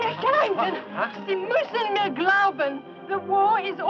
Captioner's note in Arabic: تحدث الألمانية الصوت